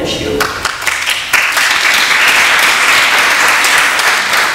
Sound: audience claps

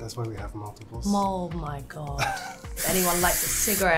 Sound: laughing

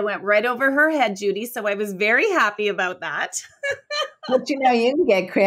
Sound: laughs

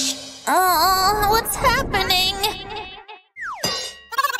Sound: moaning

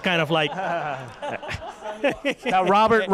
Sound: laughter

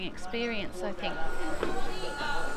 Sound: machinery operating

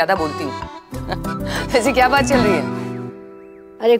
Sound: laughs

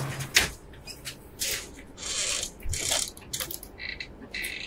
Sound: door creaking

